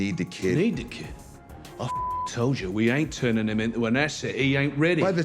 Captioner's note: beep